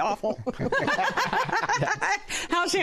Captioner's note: laughter